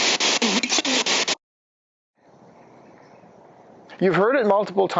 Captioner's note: voice blurts